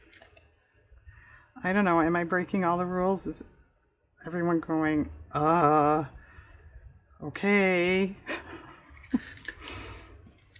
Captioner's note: laughs